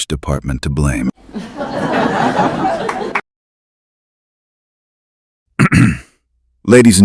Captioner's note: cough and clears throat